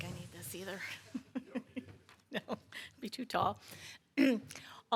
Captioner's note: laughs